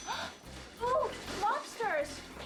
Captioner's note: Cher gasps